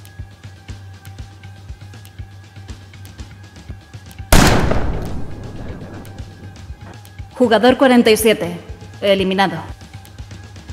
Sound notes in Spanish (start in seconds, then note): 4.3 Disparo